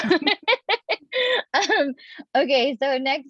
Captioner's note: laughing